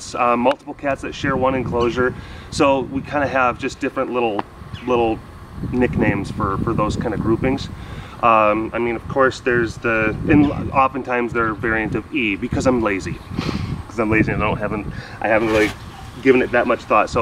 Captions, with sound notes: Multiple cats that share one enclosure, so we kind of have just different little- little Nicknames for those kind of groupings. I mean of course - there's the often times they're variant of "ee" because I'm lazy *laughs* Because I'm lazy and don't have- *snuffle* I haven't really given it that much thought.